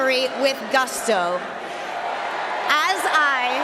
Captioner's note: cheering and applause